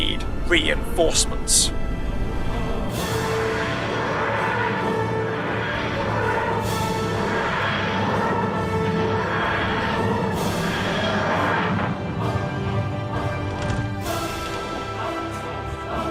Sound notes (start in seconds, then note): 7.9 whooshing; 13.3 door opening sounds